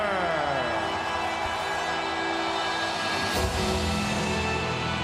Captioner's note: crowd cheers